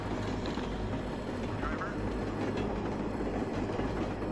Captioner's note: train passes in the distance